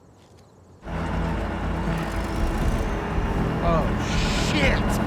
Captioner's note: rig roars